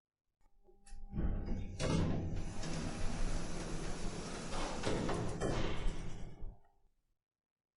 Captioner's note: elevator SFX